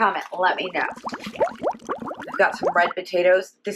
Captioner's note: bubbling